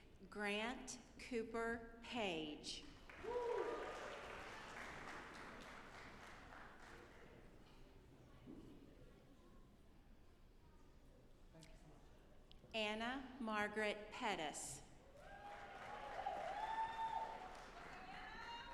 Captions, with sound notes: Grant Cooper Page. (audience applauding) Anna Margaret Pettus. (audience applauding)